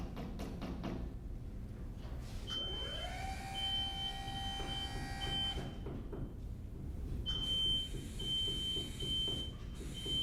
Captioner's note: hammering and beeping